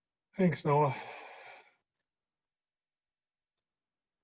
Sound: sighing

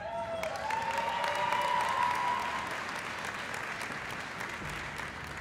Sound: cheering and applause

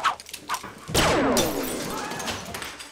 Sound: laser blast sounds

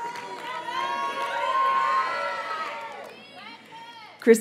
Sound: audience cheers and applauds; graduates chant

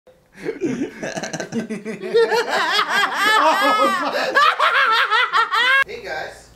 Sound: creepy laughter

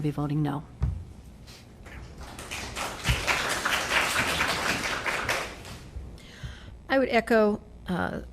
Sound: applause

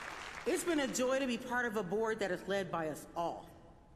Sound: applause

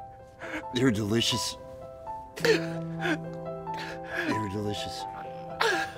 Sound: Baba weeping

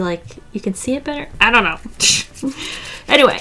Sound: laughs

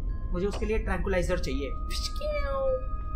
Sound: pshhh

